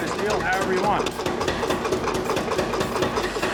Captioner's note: rhythmic clunking